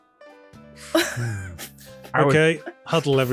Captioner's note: laughter